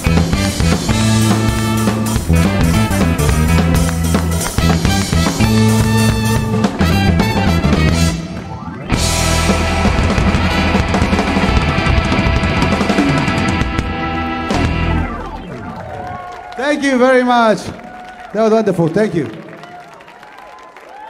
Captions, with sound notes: (audience clapping) (audience cheering) Thank you very much. That was wonderful. Thank you.